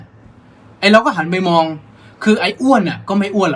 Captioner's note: none